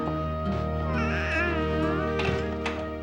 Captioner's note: cooing